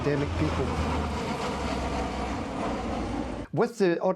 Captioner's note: aircraft roaring